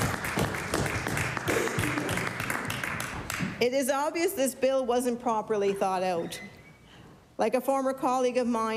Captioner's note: applause